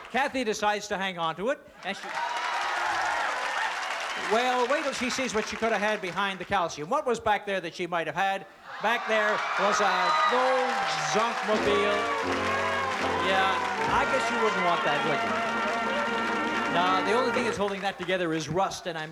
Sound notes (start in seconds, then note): 1.8 cheering; 11.5 sad music